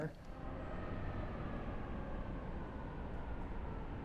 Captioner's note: traffic sounds